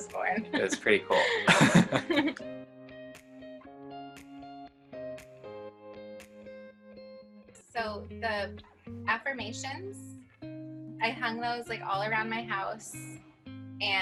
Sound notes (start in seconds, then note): 1.8 both laughs; 2.7 gentle upbeat music